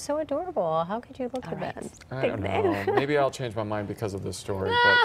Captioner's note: laughter